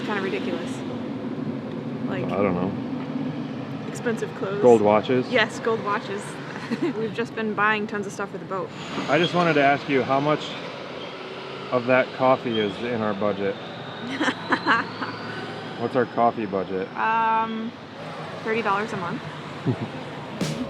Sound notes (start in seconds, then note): 6.4 giggles; 14.0 laughing